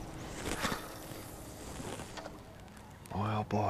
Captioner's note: fishing line throwing